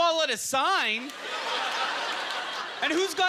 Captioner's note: audience chuckling